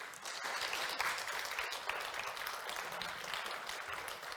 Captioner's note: applause